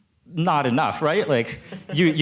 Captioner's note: laughter